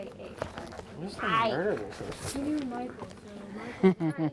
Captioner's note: group chattering; laughing